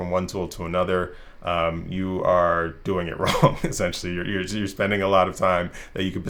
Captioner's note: laugh